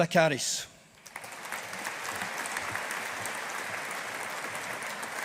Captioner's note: audience applauding